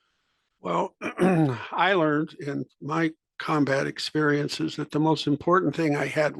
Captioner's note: cough